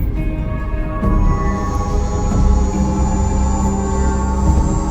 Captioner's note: sub whirring